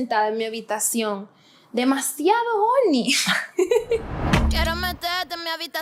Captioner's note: laughter